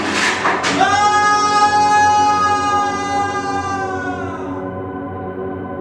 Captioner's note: yell out